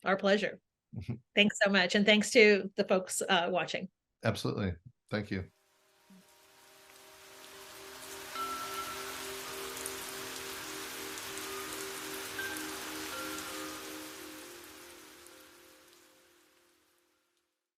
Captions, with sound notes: - Our pleasure. Thanks so much. And thanks to the folks watching. - Absolutely. Thank you. (rain swishing) (wind chime chiming)